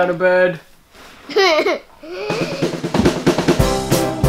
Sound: laughing; upbeat music

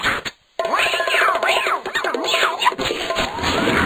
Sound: Catwalk makes meowing noises

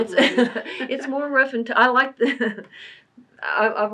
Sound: laughs

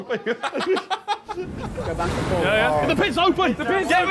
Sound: both laughing

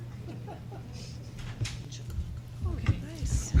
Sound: laughter

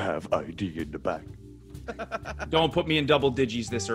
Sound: laugh

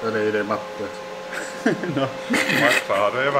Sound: laughs

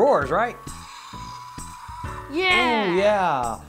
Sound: faint roaring

